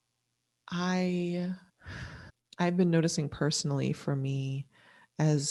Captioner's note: sighs